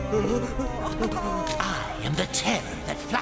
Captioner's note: both gasping